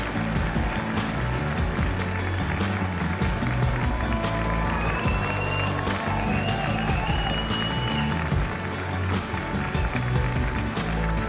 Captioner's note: cheers and applause